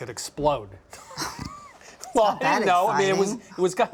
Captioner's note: laughs